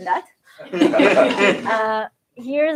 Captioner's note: laughter